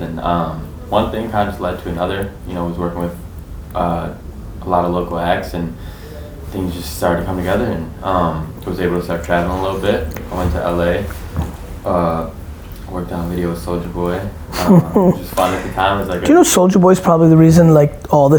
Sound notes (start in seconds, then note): 14.5 laughs